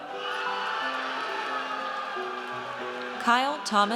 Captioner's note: audience cheers